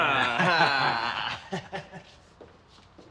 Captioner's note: laughs